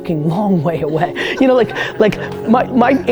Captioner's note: group laughter